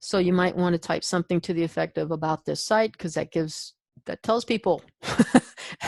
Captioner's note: chuckles